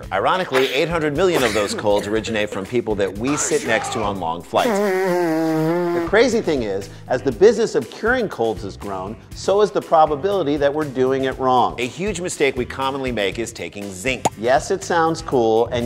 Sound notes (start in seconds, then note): 4.6 nose blowing